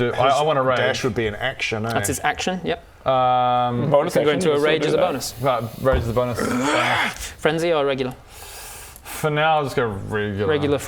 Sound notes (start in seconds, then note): 5.9 hrrrgh